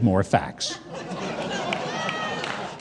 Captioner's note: audience laughing